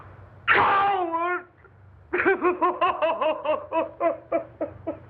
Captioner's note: sobbing